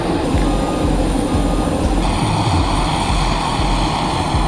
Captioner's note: speaking in foreign language; vehicle beeps